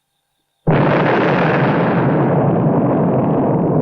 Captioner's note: explosion